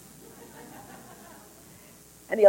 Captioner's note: laughter